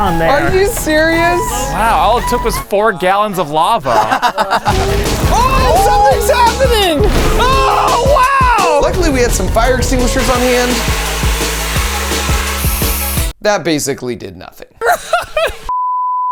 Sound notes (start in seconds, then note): 3.7 friends laughing; 4.2 upbeat techno music; 10.2 extinguisher whooshing